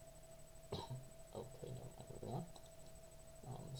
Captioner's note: nervous coughing in attempt to hide incompetence